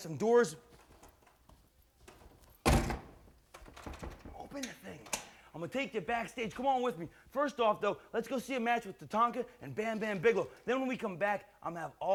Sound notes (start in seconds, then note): 2.6 door thuds